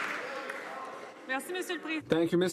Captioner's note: some Applause